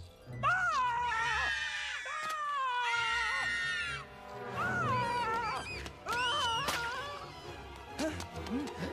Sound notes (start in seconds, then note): 0.5 all Screaming Louder; 4.6 screaming Repeat